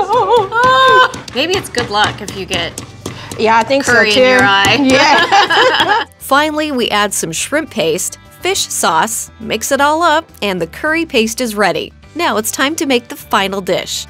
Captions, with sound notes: - Maybe it's good luck if you get curry in your eyes. - I think so too. [both laughing] - Finally, we add some shrimp paste, fish sauce, mix it all up and the curry paste is ready. Now it's time to make the final dish.